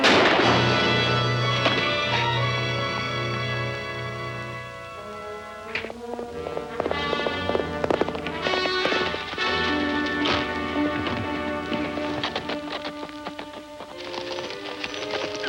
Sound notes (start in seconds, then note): 0.0 gun firing; 2.6 suspenseful music; 6.5 horse galloping